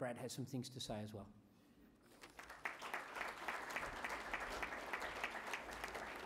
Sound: applause

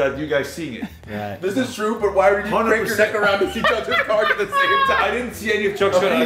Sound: laugh

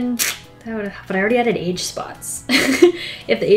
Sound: laughs

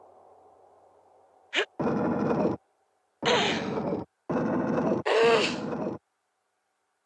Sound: gruntings

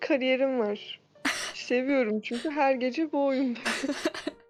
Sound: chuckling

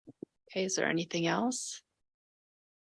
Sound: none

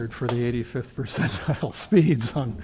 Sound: laughter

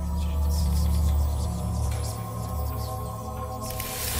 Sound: whispers

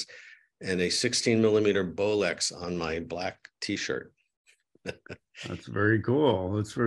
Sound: chuckles

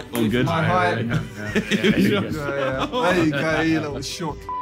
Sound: all laughing

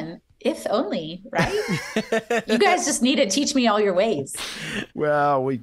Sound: laughter

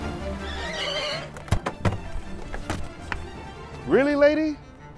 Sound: tires screeching; woman opens door

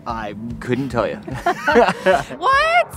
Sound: laughing

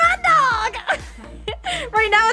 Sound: laughs

